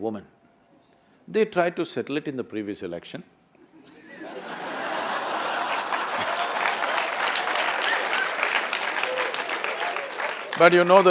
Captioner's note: laughter/Applause